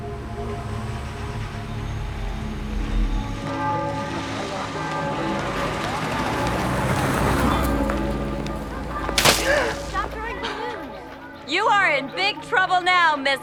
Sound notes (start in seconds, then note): 3.4 church bell ringing; 8.5 splashing